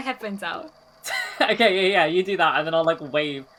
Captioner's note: laughs